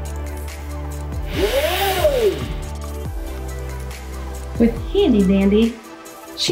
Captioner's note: board scraping against board